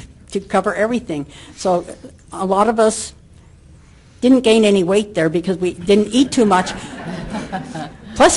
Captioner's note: laughter from audience